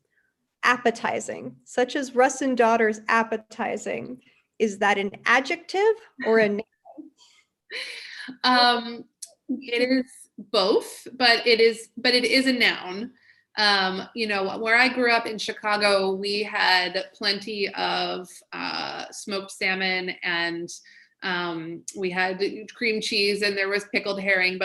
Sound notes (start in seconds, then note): 7.3 laughs